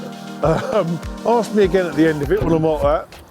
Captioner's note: chuckles